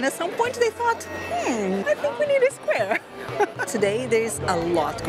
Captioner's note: laughs